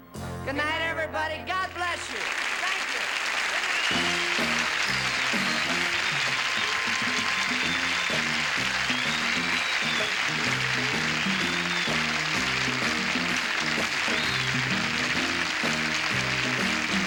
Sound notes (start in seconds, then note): 3.8 applause; 5.3 upbeat music